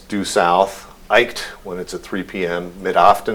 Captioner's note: non-english speech